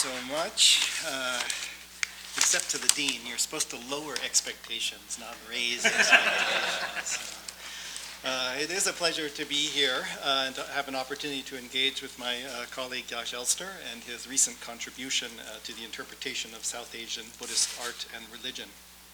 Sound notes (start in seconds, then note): 5.7 audience laughs